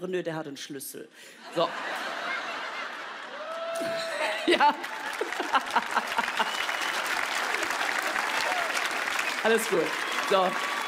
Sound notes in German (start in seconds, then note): 2.9 Lachen, Jubelruf; 3.7 lacht; 3.8 Sie lacht herzlich; 6.7 Applaus, Pfiffe